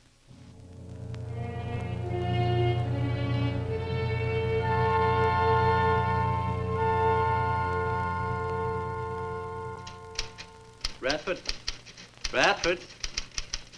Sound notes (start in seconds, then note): 0.0 door closes; 0.2 ominous orchestral music; 9.8 typewriter clacks